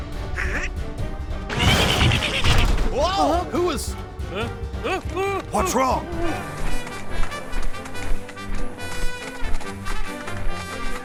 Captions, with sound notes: Huh? (Duck grunts) Who was— What's wrong?